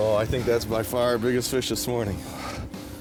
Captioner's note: voiceover